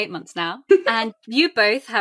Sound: laughs

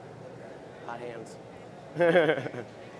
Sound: laughter

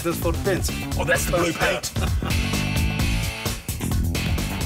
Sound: laughs

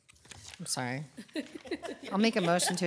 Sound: members chuckling

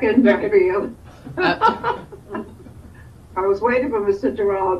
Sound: laughing

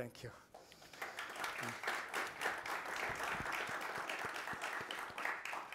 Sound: audience applauding

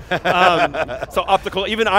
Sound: laughter

